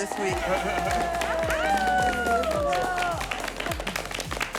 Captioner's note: everyone applauding